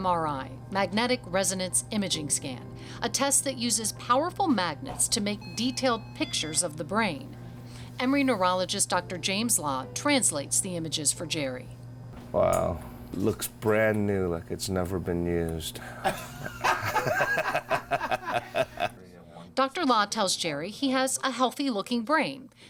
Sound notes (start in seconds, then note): 15.8 laughs